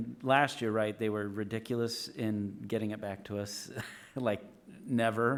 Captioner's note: chuckles